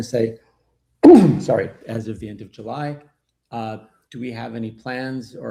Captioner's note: coughs